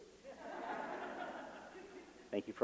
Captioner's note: laughter